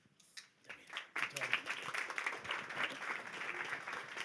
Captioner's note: applause